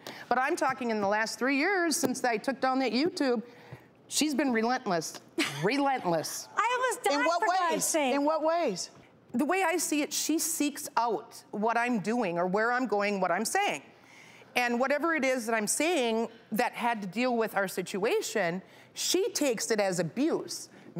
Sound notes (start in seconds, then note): 5.5 laughing